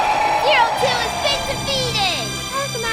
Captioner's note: screaming